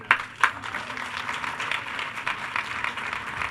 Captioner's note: all cheering